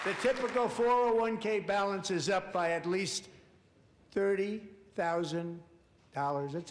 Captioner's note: applause